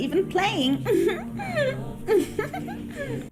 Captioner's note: giggles